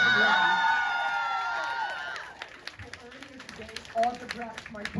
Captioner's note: crowd cheers